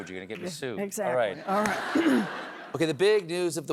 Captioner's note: laughter